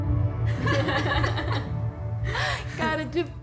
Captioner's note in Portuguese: risos